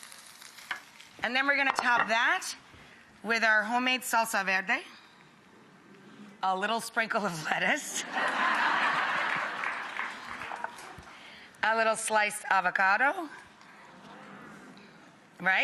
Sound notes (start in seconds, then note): 8.0 laughter; 14.4 murmurs